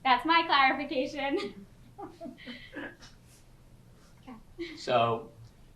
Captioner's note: pauses for 3 seconds